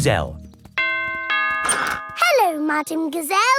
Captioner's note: doorbell rings